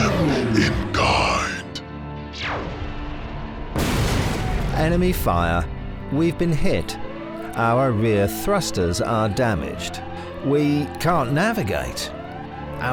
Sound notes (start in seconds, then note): 3.7 ship explodes; 3.7 ship fires